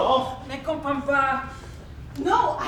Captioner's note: speaking in a foreign language